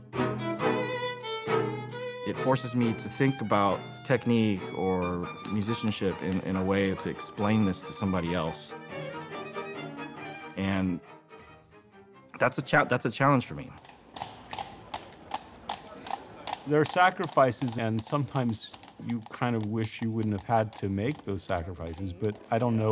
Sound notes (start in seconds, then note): 12.3 hooves clopping